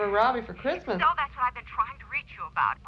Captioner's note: on phone